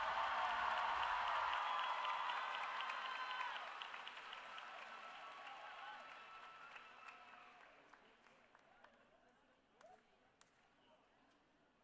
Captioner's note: applause